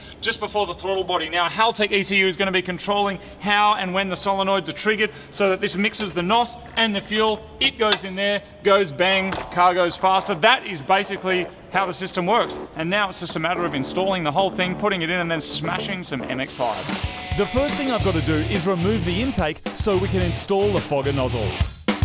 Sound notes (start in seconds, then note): 17.1 voice over; 21.8 rock music